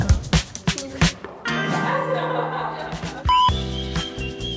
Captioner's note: laughter